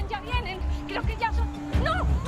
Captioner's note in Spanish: Se oyen sirenas